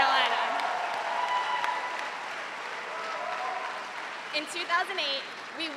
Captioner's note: cheers and applause